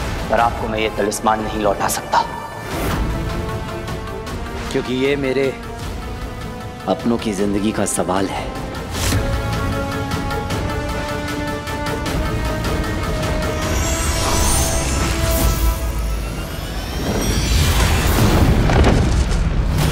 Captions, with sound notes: But I cannot hand over the talisman to you. I have to do this to ensure my loved ones are safe. [tense music plays] [thud]